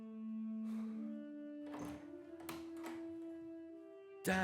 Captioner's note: somber music plays; door opens